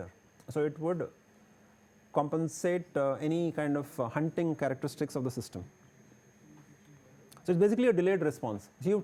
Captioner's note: modulating signal